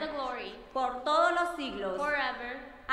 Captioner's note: speaking in foreign language